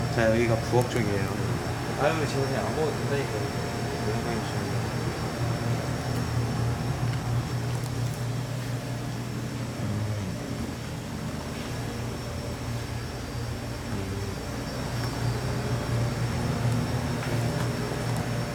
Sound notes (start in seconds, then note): 7.7 'Crunch'